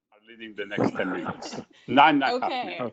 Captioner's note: laughs